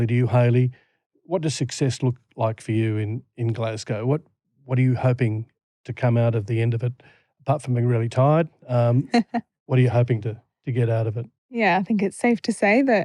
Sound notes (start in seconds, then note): 8.8 laughter